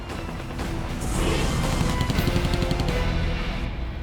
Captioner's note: gunfire